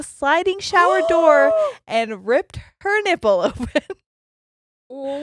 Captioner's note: gasps loudly